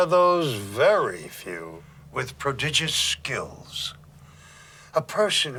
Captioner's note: none